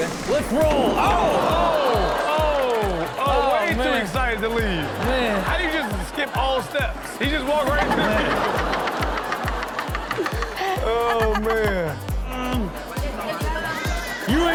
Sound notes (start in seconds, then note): 2.9 audience exclaims; 8.3 Chanel and audience laughing; 10.0 all laughing; 11.6 upbeat music